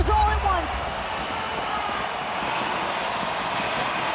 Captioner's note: crowd cheers